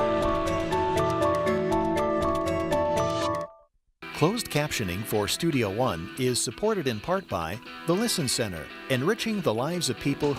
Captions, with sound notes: - [Voiceover] Closed captioning for Studio One is supported in part by the Listen Center. Enriching the lives of people